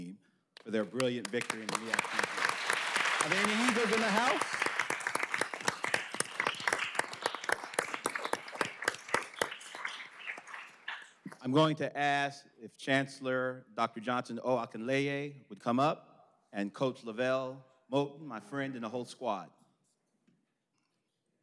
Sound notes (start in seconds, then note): 6.3 applause